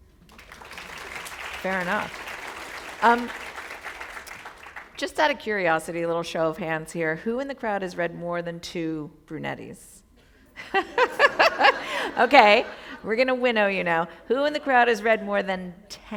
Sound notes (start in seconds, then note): 0.2 applause; 11.7 chuckle